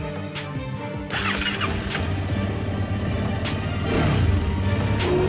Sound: upbeat music; engine revving

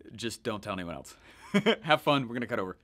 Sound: laughing

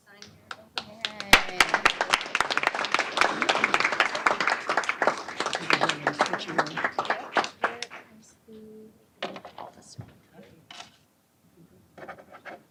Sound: applause

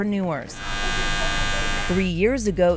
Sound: clippers buzzing

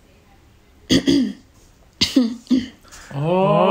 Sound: A small slight cough

